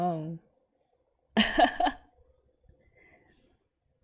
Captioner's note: laughs